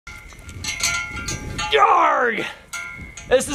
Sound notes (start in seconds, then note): 0.1 bells tingling